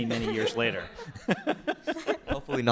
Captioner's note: laughter